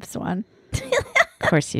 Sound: laughs loudly

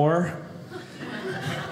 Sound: audience laughing

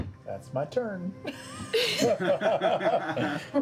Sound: laughter

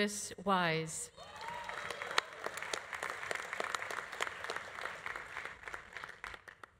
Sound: audience cheering; audience applauding

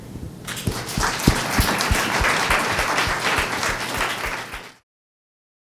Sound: applause

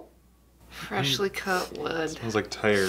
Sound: sniffing

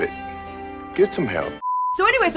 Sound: TV beeps

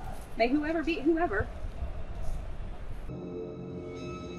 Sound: football game playing; creepy music

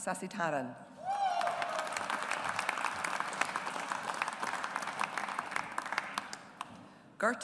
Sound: audience applauds

